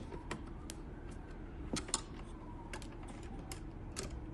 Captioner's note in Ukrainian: За вікном звук поліцейської машини